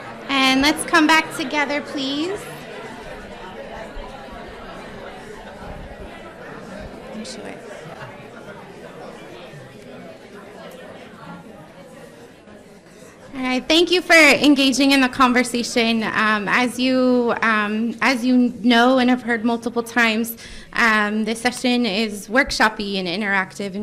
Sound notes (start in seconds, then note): 2.4 crowd discussing